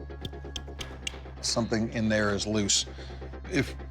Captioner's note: metal clicking